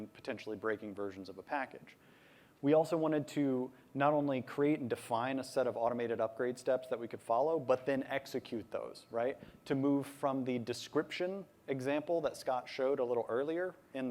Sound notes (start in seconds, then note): none